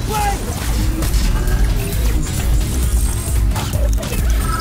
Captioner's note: action music playing; beeping, whirring